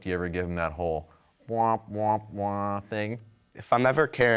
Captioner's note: imitates sad trombone